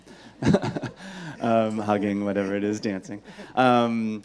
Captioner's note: laughs